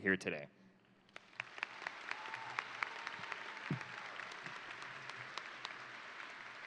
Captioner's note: crowd applauding; crowd cheering